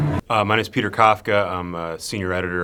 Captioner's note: voiceover